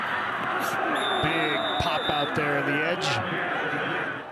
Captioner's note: referee blows whistle